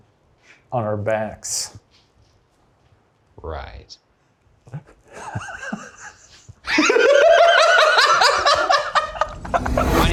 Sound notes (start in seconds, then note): 4.7 laughing; 6.7 laughing hysterically